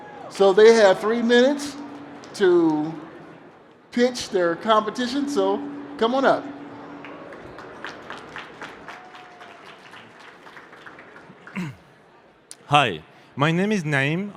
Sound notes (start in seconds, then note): 7.0 applause